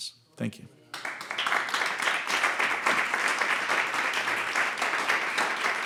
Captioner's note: audience applauding